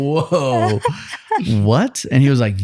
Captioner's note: laughing